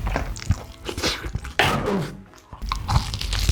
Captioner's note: cough